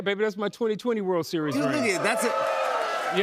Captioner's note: cheers and applause